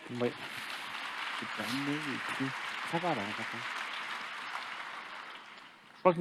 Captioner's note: applause